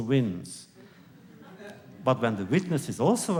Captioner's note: laughter